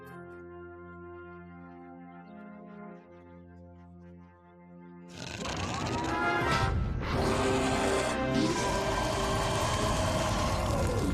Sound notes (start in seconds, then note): 5.1 growling; 7.0 roaring